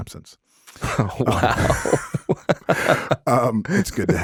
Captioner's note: laughing